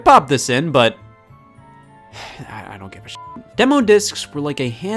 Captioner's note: beep